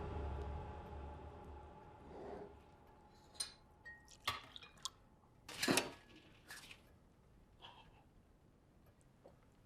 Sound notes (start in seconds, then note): 3.8 glass clinks